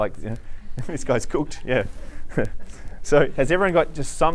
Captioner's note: laughs